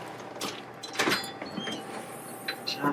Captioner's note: door closes